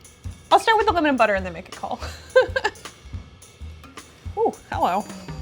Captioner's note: laughs